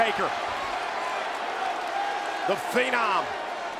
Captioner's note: audience clapping